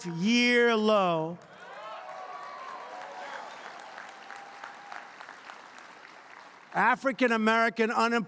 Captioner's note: applause